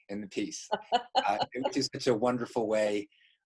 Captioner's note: laughing